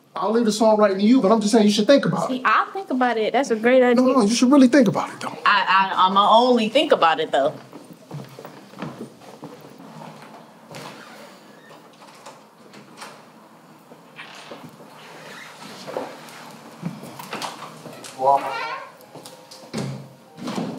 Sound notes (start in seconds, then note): 14.1 door squeaks; 18.3 gentle instrumental music